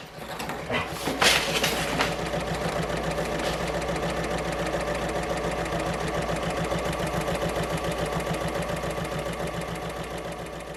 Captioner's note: sewing Machine Sounds